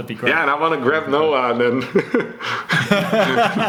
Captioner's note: laughs